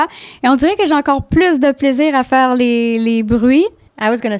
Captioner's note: in french